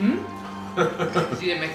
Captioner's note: laughs